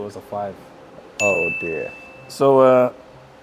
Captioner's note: graphic dings